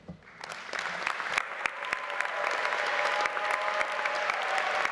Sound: audience applauding

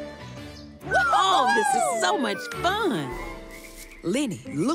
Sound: Lenny exclaims

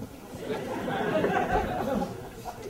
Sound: audience laughter

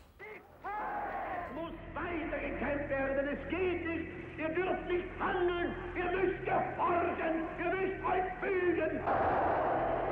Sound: Hitler's speech in German

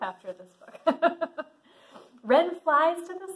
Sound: laughs

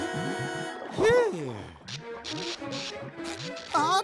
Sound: electricity sparking

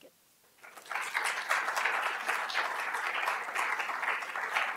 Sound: audience applauding

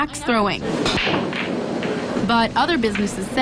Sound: nat pop of pool table

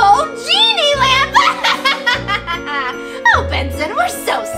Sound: laughs

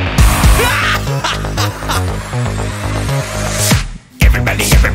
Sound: laughing maniacally

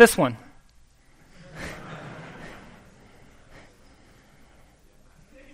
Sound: laughter

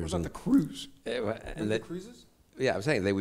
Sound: stutters

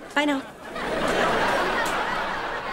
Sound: laughing

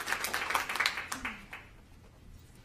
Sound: applause

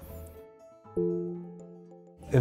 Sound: chime

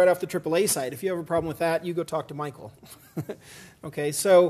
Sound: laugh

